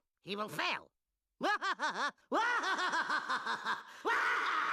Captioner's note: laughing maniacally